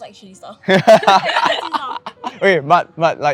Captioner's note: laughs